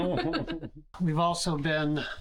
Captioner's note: laughter